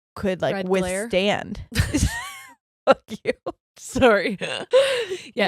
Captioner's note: both laughing